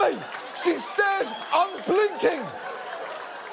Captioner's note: audience laughs, cheers